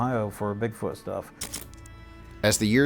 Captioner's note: camera snapping